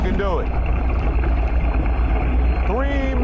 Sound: tense music; water gurgling

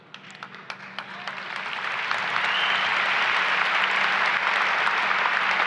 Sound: applause and cheering

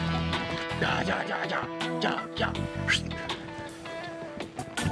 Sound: whistles

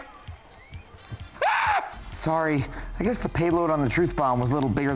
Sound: screams

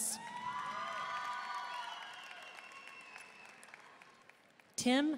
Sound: audience cheering and applauding

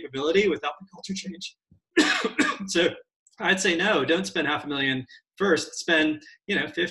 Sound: coughs

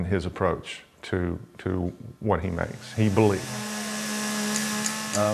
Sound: chainsaw wurring

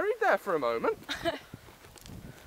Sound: laughs

